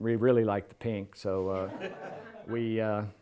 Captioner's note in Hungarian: nevetés